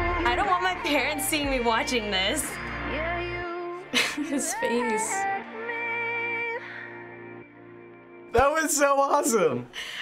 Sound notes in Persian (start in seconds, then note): 3.9 خندیدن دختر